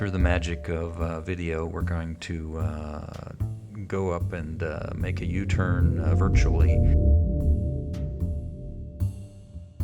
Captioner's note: low wooshing sound as video rotates